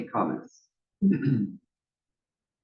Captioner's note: cough